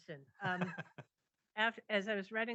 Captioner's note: laughs